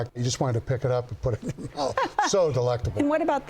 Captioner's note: laughing